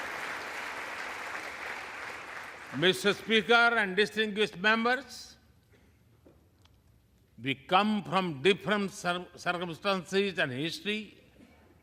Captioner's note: applause